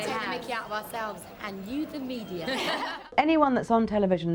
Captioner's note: laughing